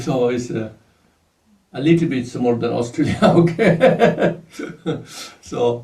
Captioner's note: laughs